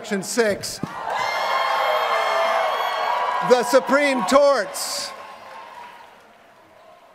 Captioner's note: applause